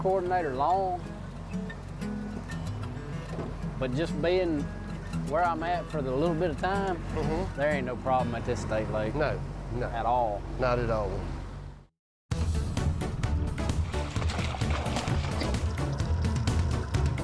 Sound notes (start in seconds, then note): 10.7 upbeat music; 10.7 water splashing